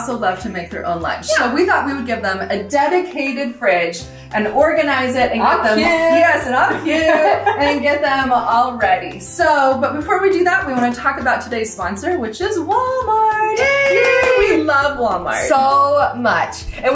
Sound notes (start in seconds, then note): 5.6 women 2 exulting enthusiastically; 7.0 women 1 exulting enthusiastically; 8.1 women 2 laughing; 12.7 in high pitch; 13.5 both cheering yeah!